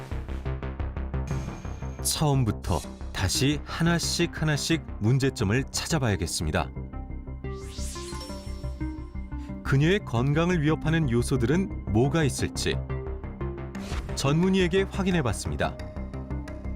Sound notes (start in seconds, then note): 2.1 voiceover